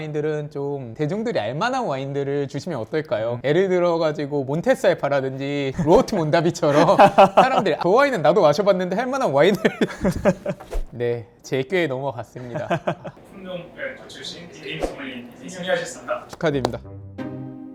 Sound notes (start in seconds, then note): 5.8 haha